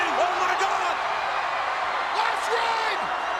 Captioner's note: audience cheers